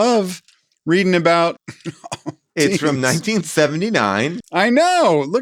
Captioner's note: laughs